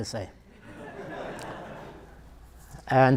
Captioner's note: audience laughter